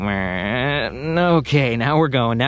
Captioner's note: makes whirring noises